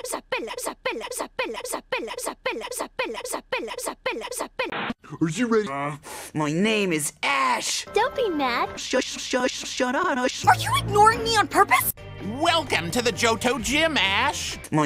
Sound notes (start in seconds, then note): 4.6 static; 7.9 in official!Misty's voice